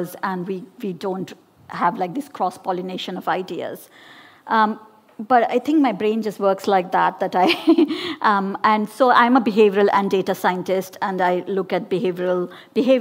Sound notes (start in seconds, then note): 7.7 laughs